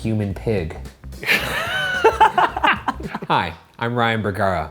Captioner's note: all laughing